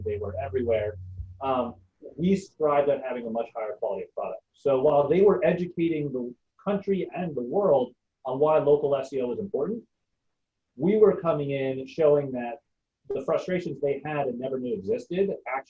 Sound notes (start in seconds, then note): none